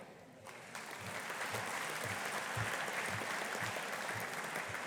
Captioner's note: audience applauding